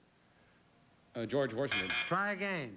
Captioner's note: buzz buzz